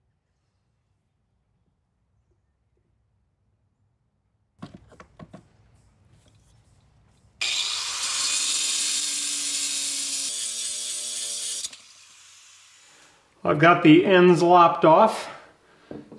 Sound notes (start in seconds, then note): 7.4 grinder buzzing